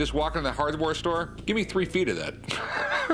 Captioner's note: laughs